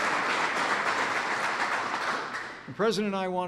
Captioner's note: applause